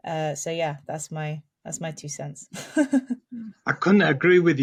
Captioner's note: chuckles